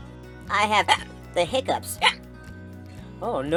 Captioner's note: hiccup